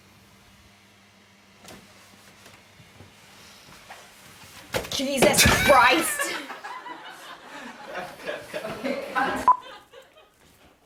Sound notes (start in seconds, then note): 5.4 laughter; 9.4 beeps